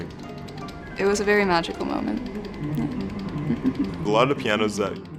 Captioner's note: giggles